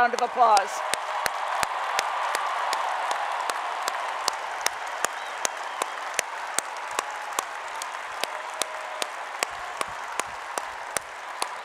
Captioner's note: applause